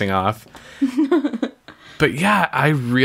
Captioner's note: laughs